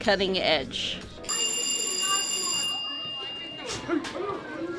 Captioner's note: bells ring